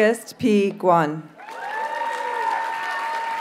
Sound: audience cheers and applauds

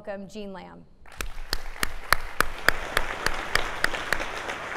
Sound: audience clapping

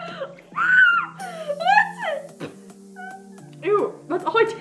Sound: screams

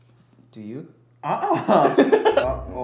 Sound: laughter

